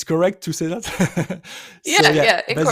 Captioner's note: chuckles